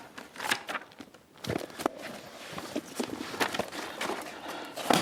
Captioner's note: book pages turnng